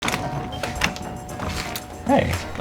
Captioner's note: door bell ringing